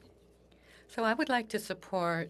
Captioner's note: speaking French